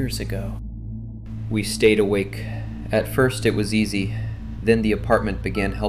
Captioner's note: exhausted